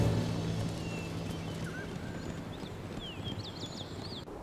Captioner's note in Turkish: Kuş cıvıltısı sesleri